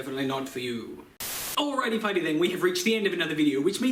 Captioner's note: Static